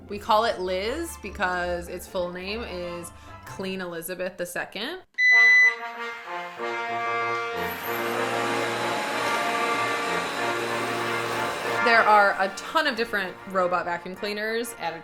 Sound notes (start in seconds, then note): 5.3 vacuum beeps; 7.5 vacuum whirring